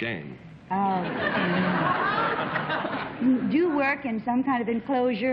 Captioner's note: laughter